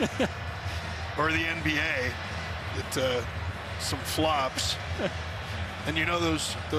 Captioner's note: laughter